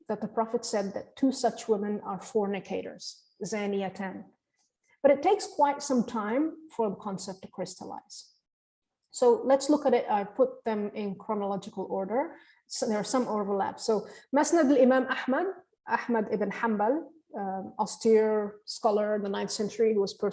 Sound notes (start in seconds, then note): 14.4 line in Arabic